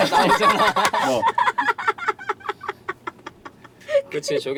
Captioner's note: laughter